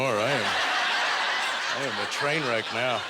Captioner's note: audience laughter